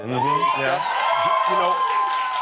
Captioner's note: cheers